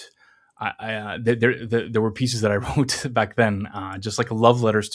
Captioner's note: laughs